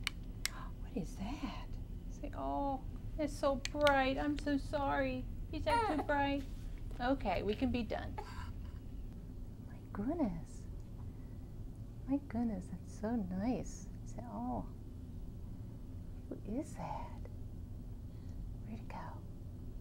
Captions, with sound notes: [flash light turns on] Oh, What is that? Say oh. It's so bright. I'm so sorry. Is that too bright? [baby fusses] Okay we can be done. My goodness. My goodness it's so nice. Say oh. What is that? Where did it go?